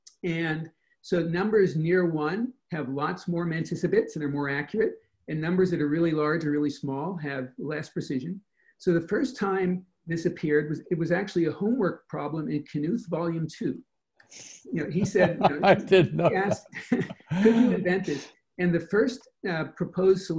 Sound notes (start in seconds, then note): 14.7 laughing